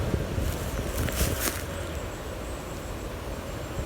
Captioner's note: leaves rustling